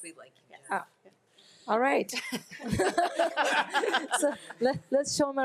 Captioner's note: group laughs